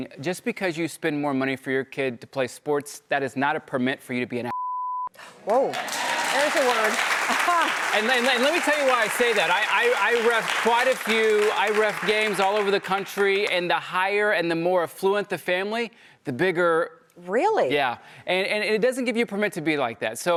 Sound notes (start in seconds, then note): 7.1 applause